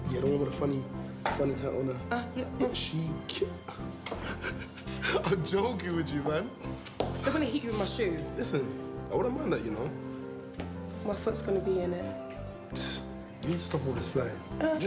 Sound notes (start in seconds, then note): 4.0 laughs; 12.9 scoffs